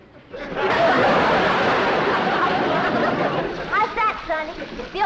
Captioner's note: water splashing